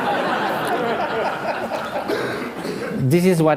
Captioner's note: laughter